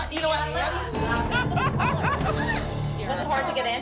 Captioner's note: laughter